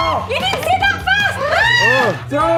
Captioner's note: screaming; screams